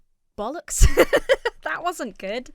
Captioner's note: laughs